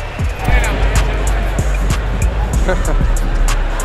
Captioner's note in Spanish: Bullicio